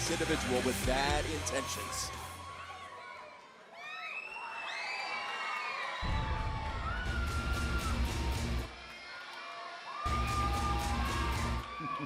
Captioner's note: crowd cheering